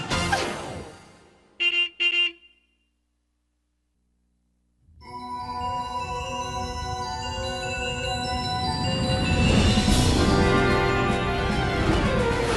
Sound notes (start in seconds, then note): 1.6 horn beeps; 5.0 mysterious music; 9.9 dramatic music